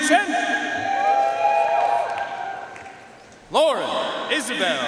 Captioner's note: audience cheering and applauding